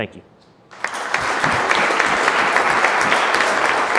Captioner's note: applauding